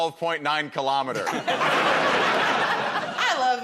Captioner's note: laughter